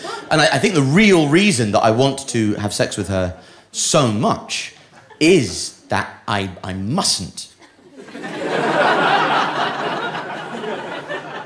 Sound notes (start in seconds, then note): 7.7 audience laughing